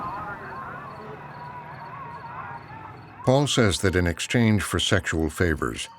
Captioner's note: thunder rumbling; noise buzzing on phone line